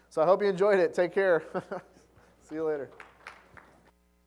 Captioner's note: laugh; applause